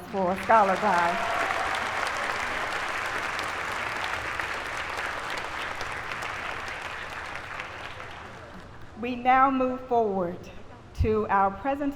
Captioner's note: applause